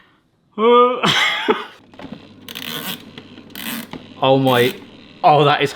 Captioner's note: weird cranking noises